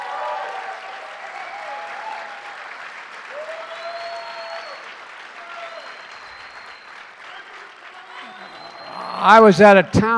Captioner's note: applause